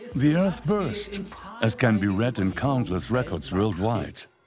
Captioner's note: in German; dubbed in English